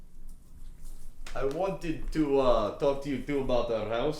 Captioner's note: none